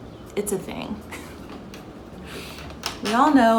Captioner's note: chuckling